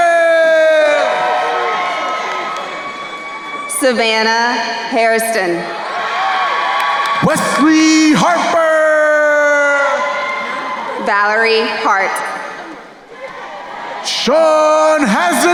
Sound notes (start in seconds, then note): 1.8 crowd cheering; 5.6 crowd cheering